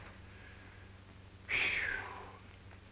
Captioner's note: breathing sigh of relief